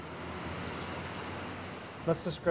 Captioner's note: cars driving